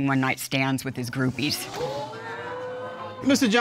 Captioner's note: audience exclaims